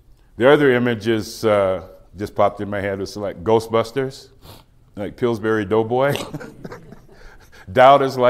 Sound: laughs

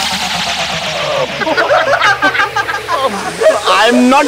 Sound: all laughing

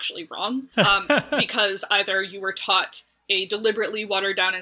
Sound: laughs

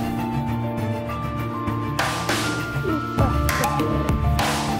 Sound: sobs

